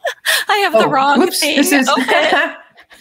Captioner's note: laughs